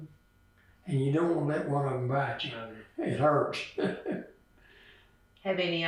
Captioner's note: laughs